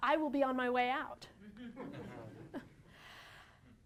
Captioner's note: laughter